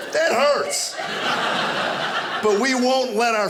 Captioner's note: audience laughing